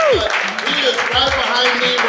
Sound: clapping

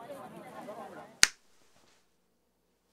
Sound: snap fingers

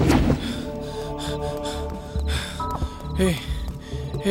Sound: panting

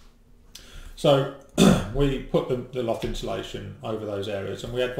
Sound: coughs

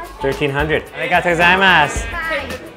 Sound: speaks in foreign language

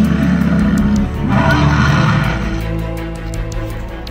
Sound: Spinosaurus growling

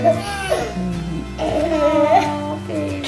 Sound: cooing

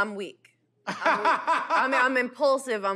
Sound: laughs

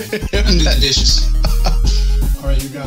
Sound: laughing

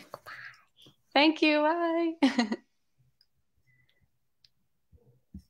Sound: chuckles

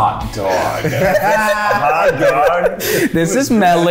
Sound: people giggling

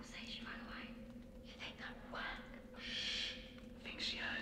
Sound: none

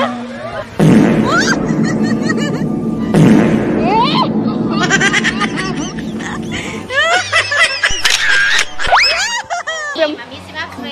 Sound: laughing

